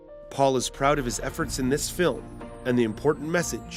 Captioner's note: voiceover